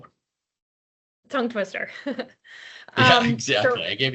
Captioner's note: chuckles